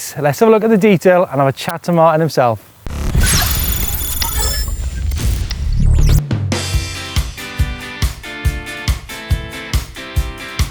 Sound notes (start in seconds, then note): 2.8 glitchy ambience; 6.2 indie rock music